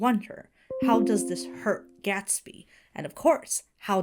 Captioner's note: notification dings